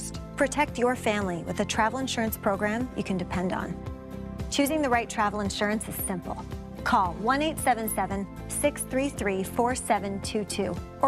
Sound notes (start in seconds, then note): none